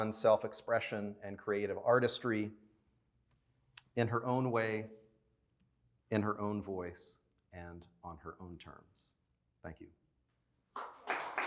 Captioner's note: applause